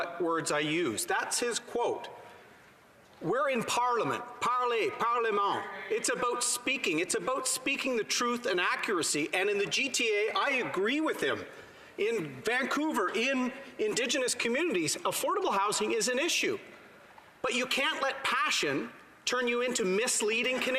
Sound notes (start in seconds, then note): 8.9 speaking French